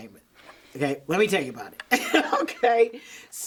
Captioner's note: laughs